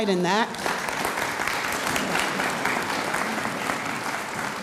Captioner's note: audience applauds